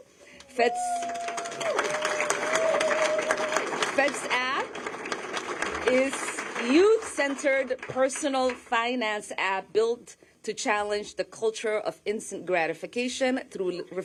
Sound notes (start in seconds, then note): 5.4 applause